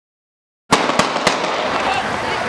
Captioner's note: three gunshots